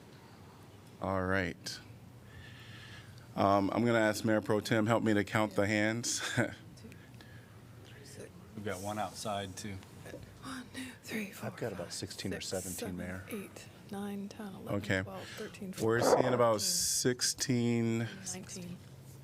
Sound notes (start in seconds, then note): 6.2 laughter